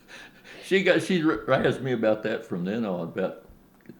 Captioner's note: laughs